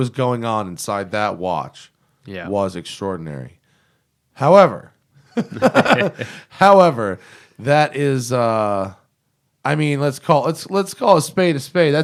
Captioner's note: laughs